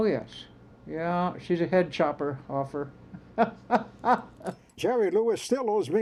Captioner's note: laughs